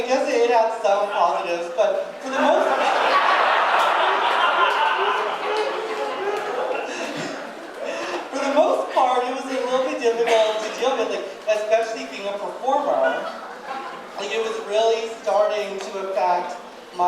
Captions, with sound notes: you know, I guess it has some positives, but for the most part... (audience laughing) For the most part it was a little bit difficult to deal with, like especially being a performer. Like it was really starting to affect